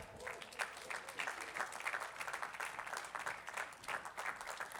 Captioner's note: attendees clapping